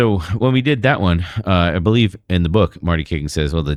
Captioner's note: uh